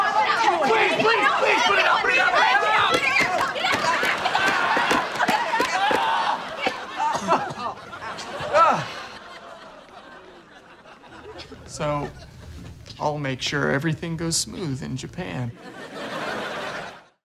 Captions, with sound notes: Please! Please! Put it out! Put it out! [shouting and screaming] [coughing] Ah! So, I'll make sure everything goes smooth in Japan.